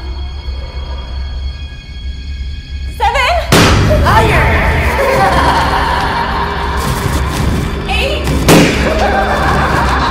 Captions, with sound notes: - Seven! (popping) - Higher! (laughing) Eight! (popping) (laughing)